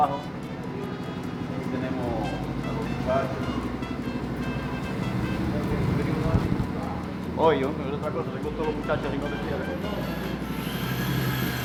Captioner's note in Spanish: sonidos de máquinas